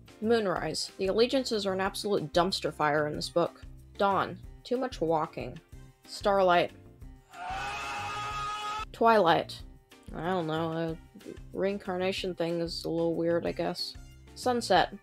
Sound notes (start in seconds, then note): 7.3 screaming